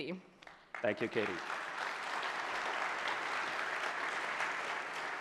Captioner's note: audience applause